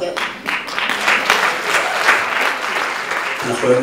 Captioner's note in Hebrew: מחיאות כפיים